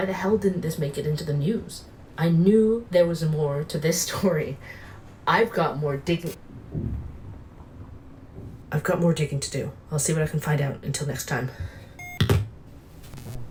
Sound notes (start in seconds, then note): 6.7 buzz, thud